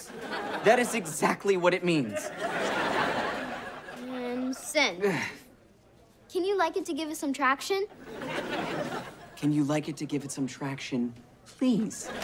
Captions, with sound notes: That is exactly what it means. - And send. - [sighs] Can you like it to give it some traction? Can you like it to give it some traction, please .